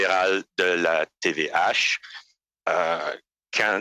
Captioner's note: speaking French